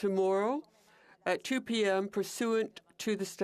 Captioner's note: speaking French